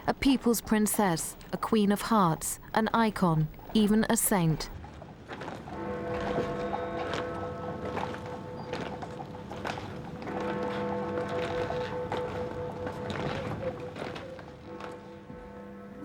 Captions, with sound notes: a people's princess, a queen of hearts, an icon, even a saint. (church bell tolls)